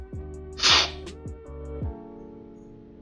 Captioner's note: slurping